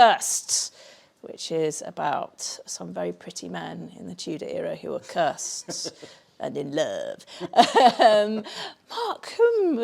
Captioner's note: laughs